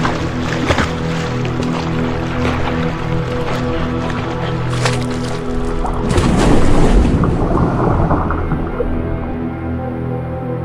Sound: water, birds chirping

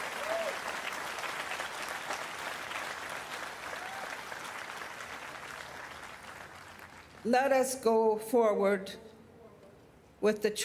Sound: cheers and Applause

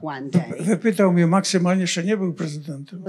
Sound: foreign language

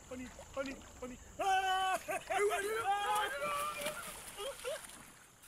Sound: excited yelling

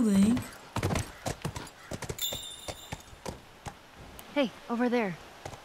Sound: hoofbeat; indication chime

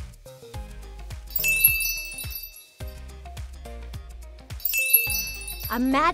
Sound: chimes ding

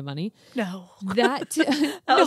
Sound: laughs

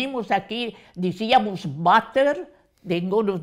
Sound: with an English accent

